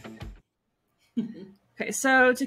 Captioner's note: chuckles